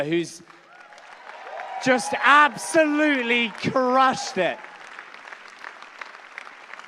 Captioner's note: applause